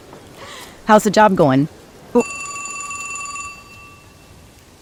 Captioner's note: phone rings